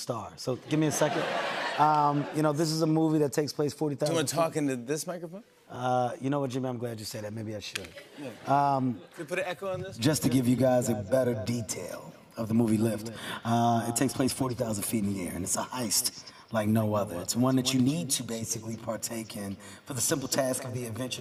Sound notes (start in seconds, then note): 10.0 echoing